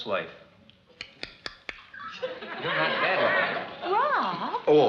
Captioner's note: clicks tongue